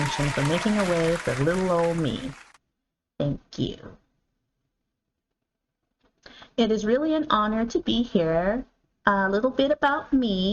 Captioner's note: applause